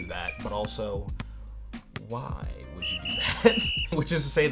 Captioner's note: laughs